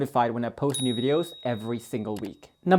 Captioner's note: bell rings